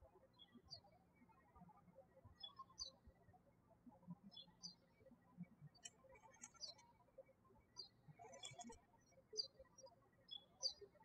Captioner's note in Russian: птички щебечут